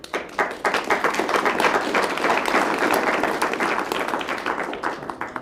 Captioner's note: applause